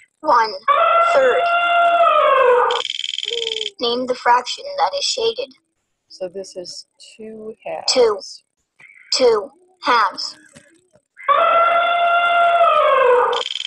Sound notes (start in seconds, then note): 0.4 voiceover; 0.8 elephant trumpeting; 3.2 voiceover; 8.3 voiceover; 10.9 elephant trumpeting